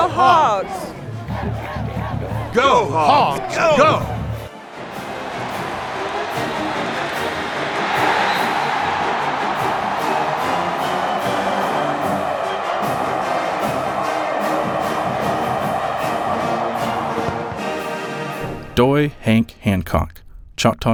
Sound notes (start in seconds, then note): 10.4 applause